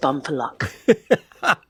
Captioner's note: laughing